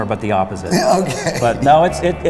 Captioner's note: laughs